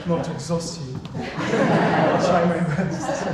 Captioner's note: everyone laughing